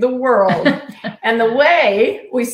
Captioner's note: laughing